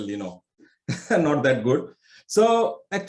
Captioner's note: chuckles